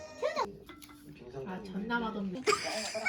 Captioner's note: laughing out loud